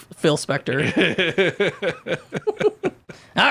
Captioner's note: laughing